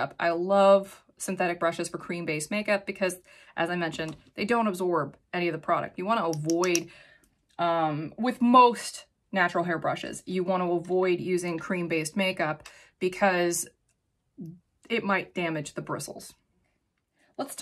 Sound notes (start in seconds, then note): 6.3 make up brushes tapping